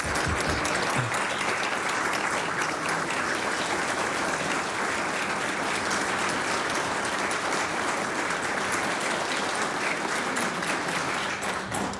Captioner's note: applause